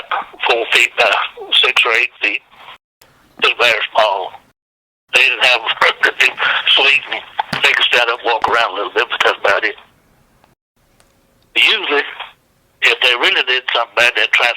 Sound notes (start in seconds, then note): 5.6 laughs